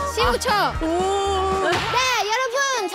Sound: wooo

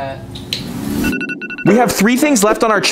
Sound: phone ringing

